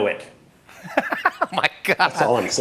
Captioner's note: laughs